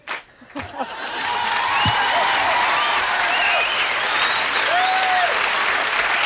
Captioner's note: audience clapping; laughing; audience cheering and applauding